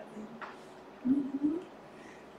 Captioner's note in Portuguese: murmúrio de afirmação